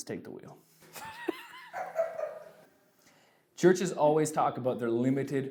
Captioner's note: laughs